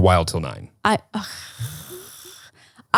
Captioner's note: scoffing